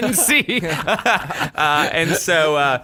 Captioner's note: laughter